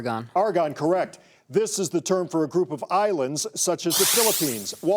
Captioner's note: none